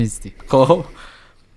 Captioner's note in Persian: خنده